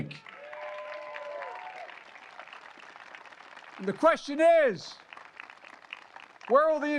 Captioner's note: applause